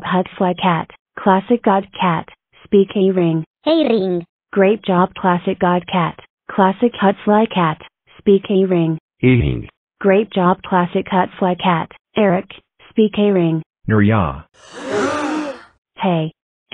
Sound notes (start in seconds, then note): 14.6 crowd Gasp